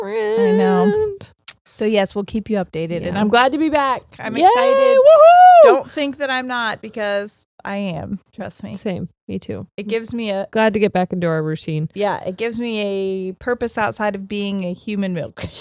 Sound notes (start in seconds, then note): 4.3 cheering